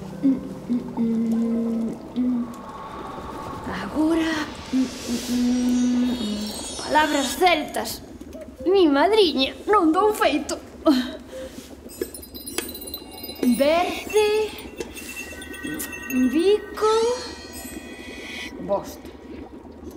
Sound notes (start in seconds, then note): 0.0 humming; 10.7 heavy breathing; 11.9 bells tinkling